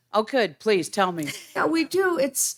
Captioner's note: laughing